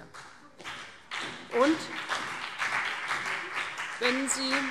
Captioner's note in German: Beifall CDU und BÜNDNIS 90/DIE GRÜNEN